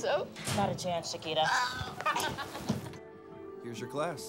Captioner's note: girls laugh